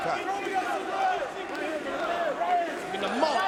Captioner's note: crowd chattering